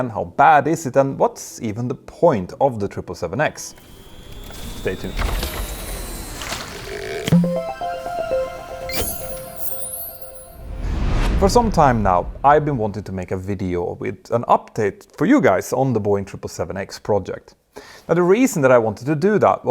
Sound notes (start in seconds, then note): 7.2 playful chime